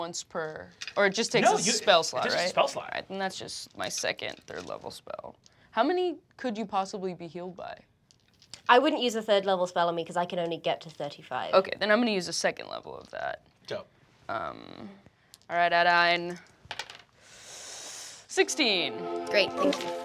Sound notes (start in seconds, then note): 16.6 rolls dice